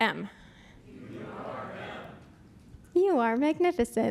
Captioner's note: crowd says in unison